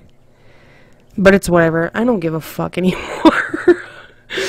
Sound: laughs but is dying inside

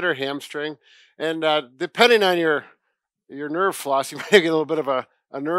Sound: chuckles

